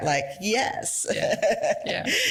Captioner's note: laughs